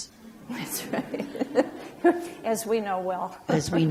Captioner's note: laughs